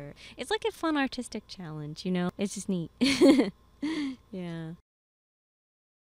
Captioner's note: laughing